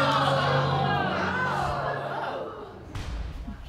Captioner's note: audience gasping